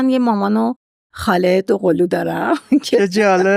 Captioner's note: laughs